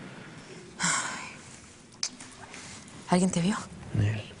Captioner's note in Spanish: Suspirando